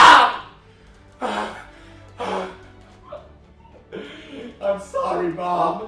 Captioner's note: sobbing